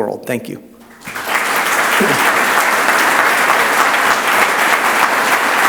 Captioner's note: audience applauds